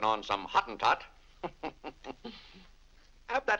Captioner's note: chuckles